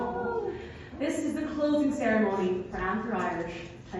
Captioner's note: sad noises